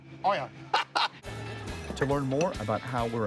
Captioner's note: laughs